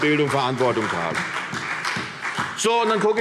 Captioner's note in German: Beifall CDU und BÜNDNIS 90/DIE GRÜNEN